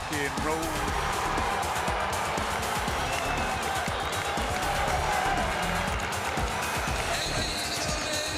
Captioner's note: crowd cheering